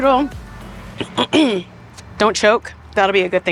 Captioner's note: clears throat